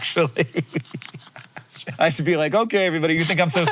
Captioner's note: both laughing